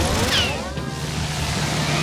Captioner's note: whizzing